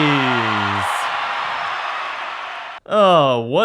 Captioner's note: sigh